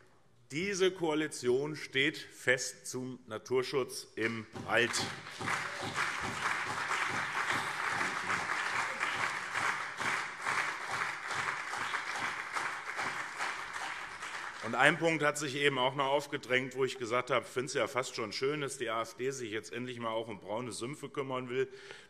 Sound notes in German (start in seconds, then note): 4.2 Beifall CDU und vereinzelt SPD